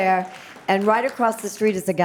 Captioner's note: audience applauds